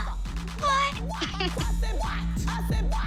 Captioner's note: giggles